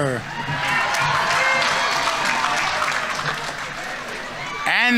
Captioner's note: audience members cheering; audience applauding